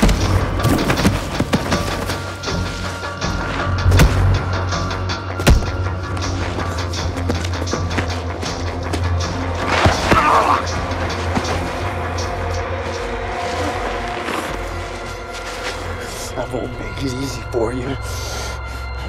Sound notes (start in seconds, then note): 0.0 footsteps thudding; 0.3 dramatic music; 4.0 fists whacking; 6.0 dramatic music; 9.8 Ben yells; 11.1 dramatic music